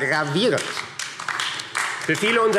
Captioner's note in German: Beifall AfD